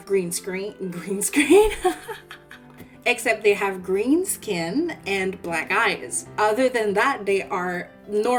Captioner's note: laughs